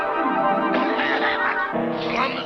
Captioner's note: whimsical music; Colonel coughing